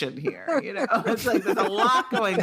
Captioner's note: laughter